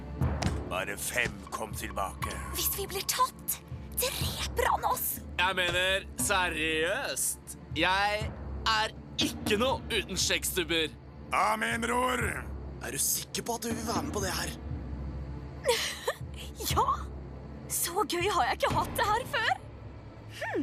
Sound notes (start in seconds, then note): 2.9 whispers